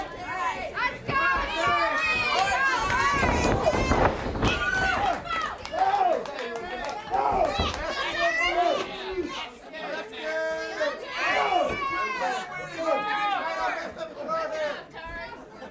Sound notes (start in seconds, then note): 1.0 crowd chatter; 3.3 crowd chatter; 4.3 crowd cheering